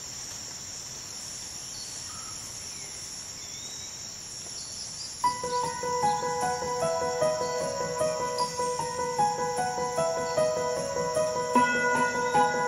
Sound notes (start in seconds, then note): 0.7 light jungle ambience; 5.2 upbeat piano playing